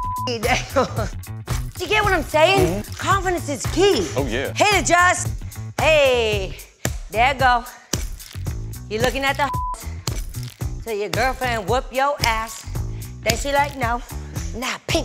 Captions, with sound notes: Do you get what I'm sayin'? - Mm-hmm. - Confidence is key. - Oh, yeah. - Hit it, Just! Hey! There ya go. You lookin' at the (beeps). Tell your girlfriend whip yo ass. Just to let you know. Now, paint with the brush.